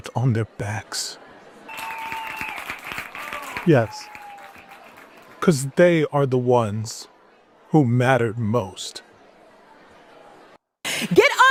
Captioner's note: applause